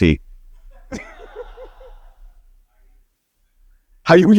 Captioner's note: audience laughing